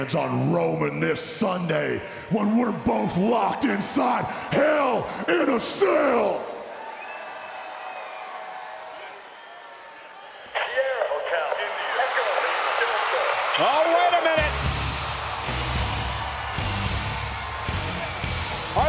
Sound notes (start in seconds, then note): 6.7 applause